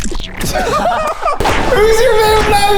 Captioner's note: everyone laughing